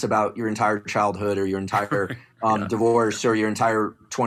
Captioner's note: laugh